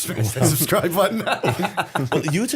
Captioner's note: laughter